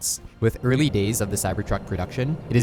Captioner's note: graphics whooshing